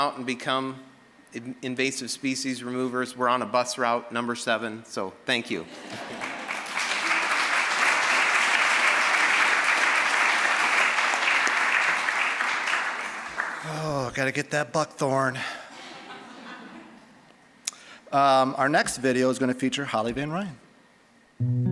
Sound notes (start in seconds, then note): 5.6 audience laughing; 5.9 applause; 15.6 audience laughing